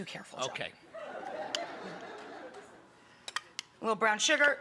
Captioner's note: audience laughs